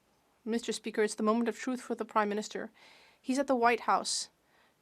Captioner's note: speaking French